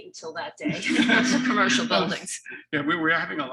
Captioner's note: laughter drowning speech